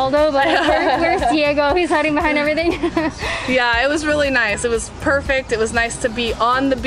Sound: laughter

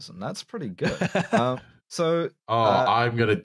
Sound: laughing

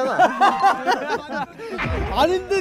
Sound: hahahaha

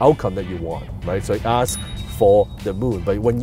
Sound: ding

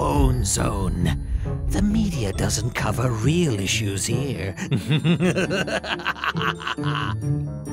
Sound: sinister laughter

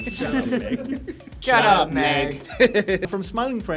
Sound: speaking in unison

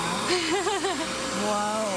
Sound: laughing

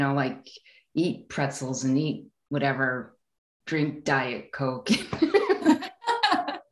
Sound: laughing

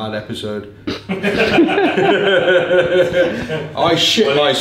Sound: all laughing off camera

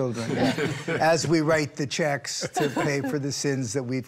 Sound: all laughing

